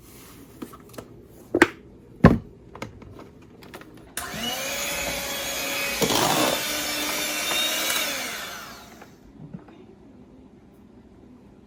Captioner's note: whisking up potatoes with electric hand mixer